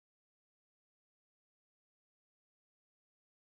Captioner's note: none